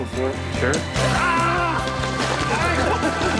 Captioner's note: yelling/laughing